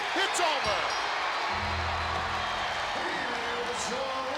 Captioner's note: bell rings